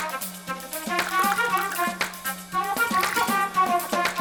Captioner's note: liquid pouring